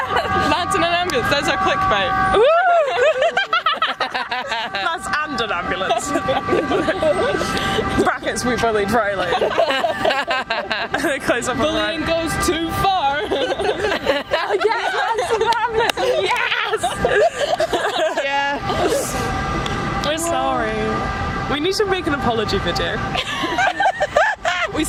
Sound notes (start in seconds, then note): 2.4 laugh; 3.3 beeping noise in background continues; 5.1 beeping noise in background gets quieter; 5.7 all laugh; 6.1 beeping noise in background gets quieter; 8.6 beeping noise in background gets quietier; 12.5 beeping noise in background gets quieter; 13.1 all laugh; 15.5 beeping noise in background gets quietier